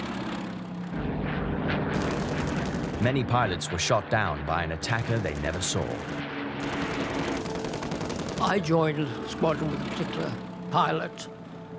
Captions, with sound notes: (dramatic music) (plane engines roaring) Many pilots were shot down by an attacker they never saw. - I joined a squadron with particular pilot,